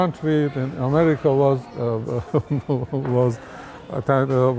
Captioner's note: laughs